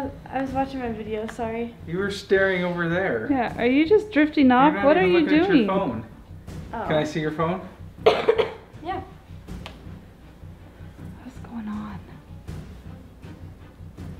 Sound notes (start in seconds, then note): 8.0 coughs